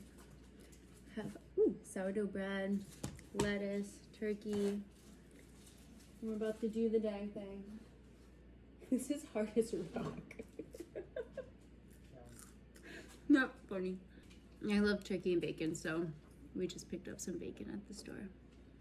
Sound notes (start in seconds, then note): 12.2 crunch